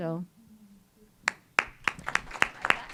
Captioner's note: applause